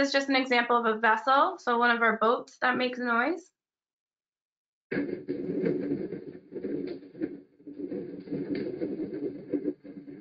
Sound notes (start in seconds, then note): 5.6 repetitive churning rumble